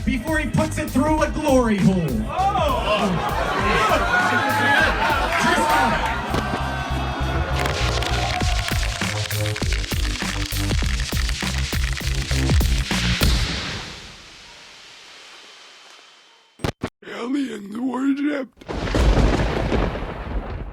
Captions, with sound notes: before he puts it through a glory hole. (audience cheering) (fireworks exploding) - Aliens Worshipped. (explodes)